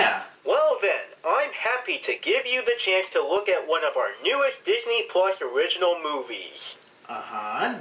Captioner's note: from phone